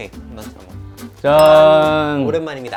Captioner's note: cheers